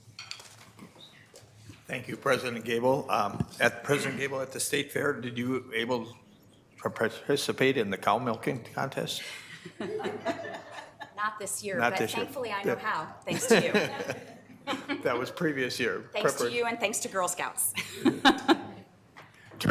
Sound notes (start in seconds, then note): 13.2 president and Vice Chair laughing; 17.8 laughs